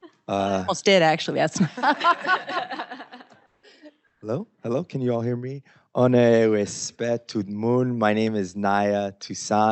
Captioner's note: speaking in Haitian Creole